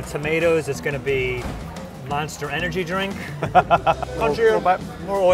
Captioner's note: laughs